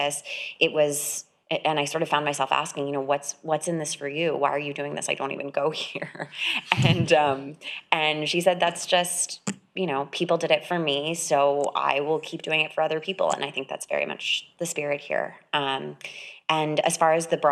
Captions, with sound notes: I had a copy with me when I got to campus. It was, and I sort of found myself asking, you know, what's in this for you, why are you doing this? I don't even go here. (laughs) And she said, that's just, you know, people did it for me, so I will keep doing it for other people. And I think that's very much the spirit here.